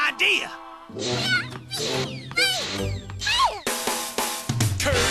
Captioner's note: happily